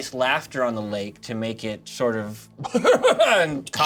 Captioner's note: laughing and coughing